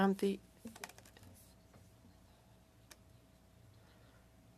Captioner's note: speaking French